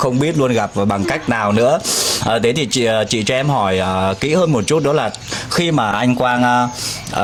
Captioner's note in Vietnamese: khịt mũi